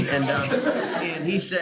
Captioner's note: laughter